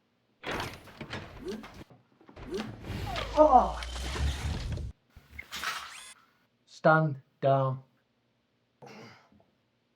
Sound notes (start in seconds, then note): 0.3 Kellogg's limbs whirring; 3.1 Solent grunts; 5.3 Kellogg's arm whirring